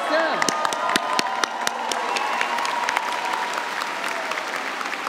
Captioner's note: cheers and applause